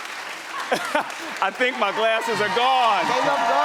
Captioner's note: audience applauds; laughs; audience cheers